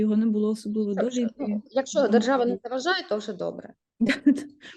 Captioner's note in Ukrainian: Сміх